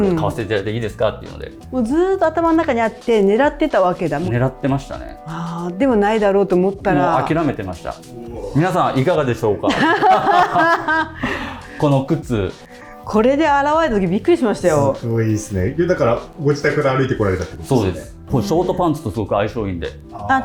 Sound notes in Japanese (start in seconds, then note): 9.7 笑い